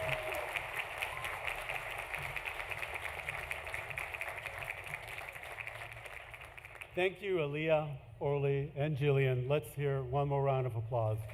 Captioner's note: applause